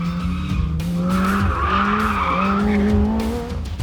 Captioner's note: tyres screeching